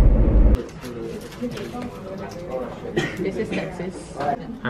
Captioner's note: students talking